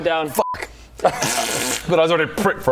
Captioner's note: ppppffft